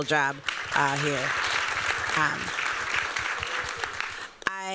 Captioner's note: applause